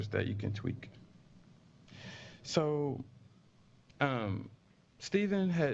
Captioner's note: pause